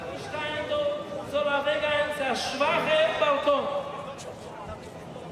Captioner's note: people chattering in foreign language; rabbi speaking in foreign language